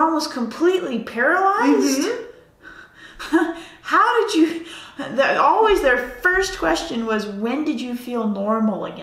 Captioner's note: laughs